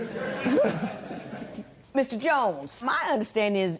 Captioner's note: laughter